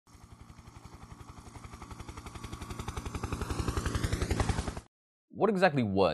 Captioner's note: helicopter in flight